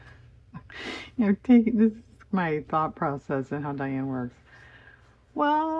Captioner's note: laughs